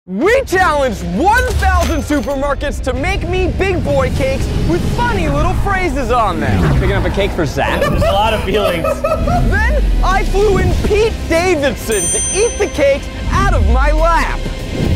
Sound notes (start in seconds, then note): 7.2 group laughing; 14.7 dramatic music